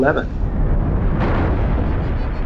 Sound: explosion

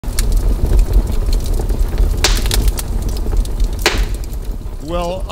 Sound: metal scraping; fire crackling

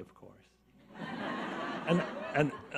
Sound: audience laughs

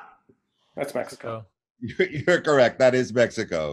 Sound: chuckling

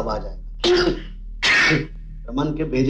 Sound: sneezing

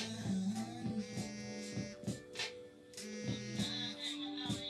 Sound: phone vibrating

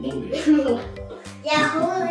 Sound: laughing

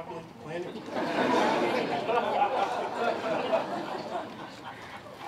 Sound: laughter

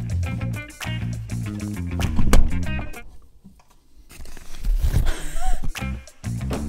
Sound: upbeat music; laughs; door closes

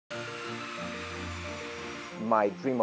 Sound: fighter jets whir

